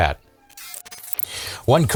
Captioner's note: crunching